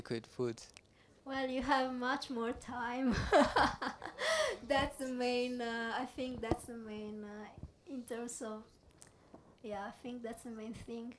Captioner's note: laughs